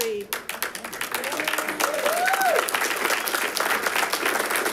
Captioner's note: audience clapping